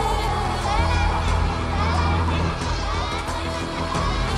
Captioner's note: voices echoing